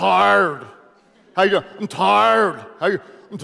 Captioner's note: audience laughing